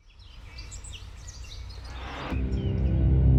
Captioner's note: birds chirping; dramatic music